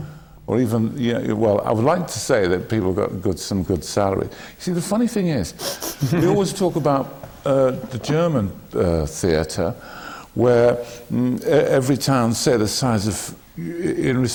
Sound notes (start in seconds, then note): 5.6 laughter from the panel